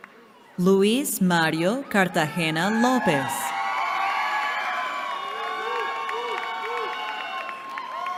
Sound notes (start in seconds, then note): 2.2 cheering